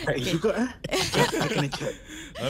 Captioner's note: laughing